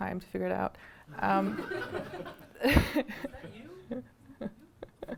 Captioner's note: audience laughing